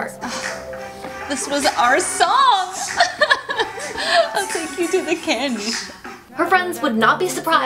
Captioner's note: crying